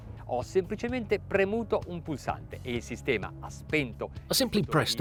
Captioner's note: speaks in foreign language